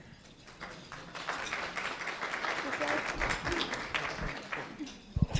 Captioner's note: applause